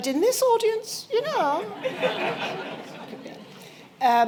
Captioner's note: laughter